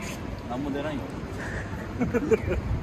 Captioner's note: laugh